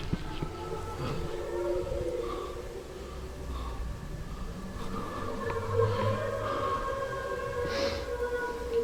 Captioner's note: spectral hollow sound